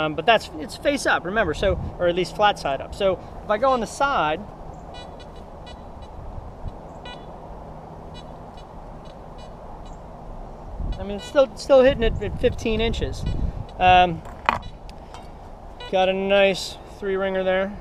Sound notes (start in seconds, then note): 4.8 detector beeps